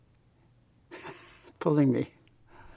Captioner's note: laughs